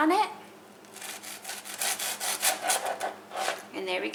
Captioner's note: knife sawing